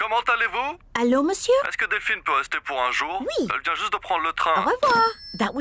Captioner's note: speaks french